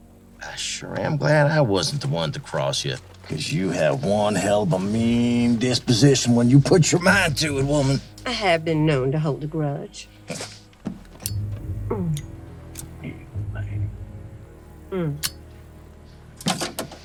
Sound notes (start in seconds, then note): 11.2 flicks lighter